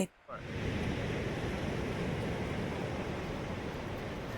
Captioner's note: waves crashing